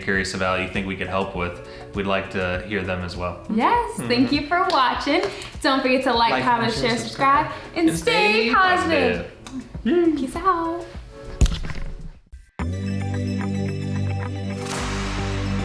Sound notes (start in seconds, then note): 9.4 kissing noise; 12.7 gentle music